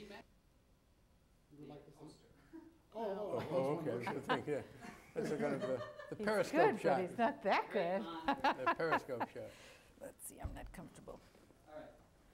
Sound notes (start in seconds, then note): 3.3 laughs